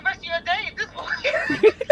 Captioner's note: laughter